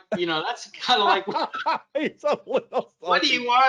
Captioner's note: both laugh